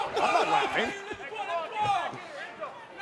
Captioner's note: laughter